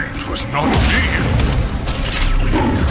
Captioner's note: punches; roars